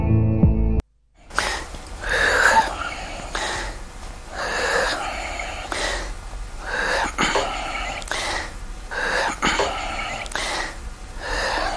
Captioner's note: labored breathing